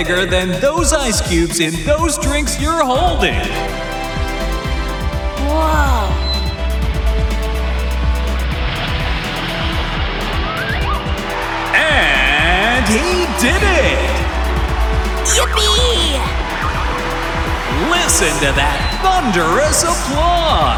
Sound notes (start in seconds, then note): 11.4 cheering